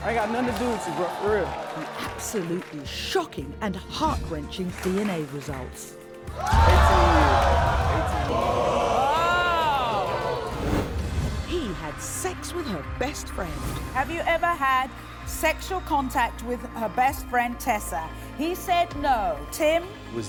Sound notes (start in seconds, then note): 8.7 groaning